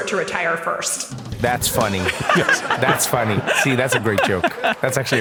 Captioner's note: laugh